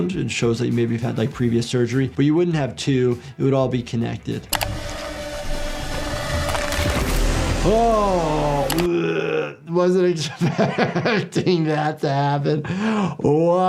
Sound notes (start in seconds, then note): 4.5 eerie music; 6.4 skin tearing; 8.8 gags